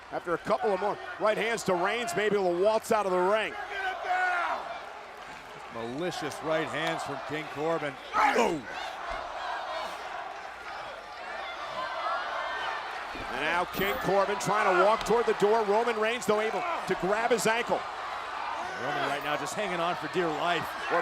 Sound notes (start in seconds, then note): 9.0 crowd shouting and chanting